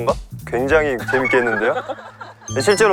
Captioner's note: acting tone